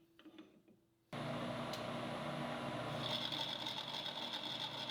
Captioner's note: machine whirring